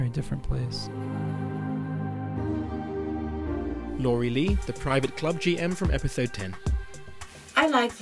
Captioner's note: voiceover